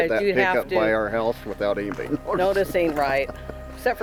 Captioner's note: laughs